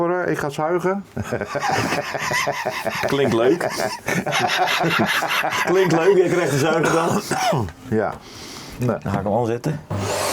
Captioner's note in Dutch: gelach